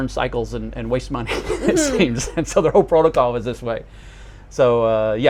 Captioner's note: chuckles